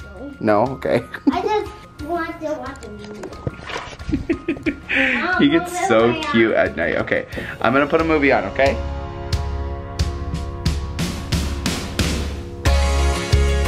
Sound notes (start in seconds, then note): 3.6 laughing; 9.9 easy listening rock music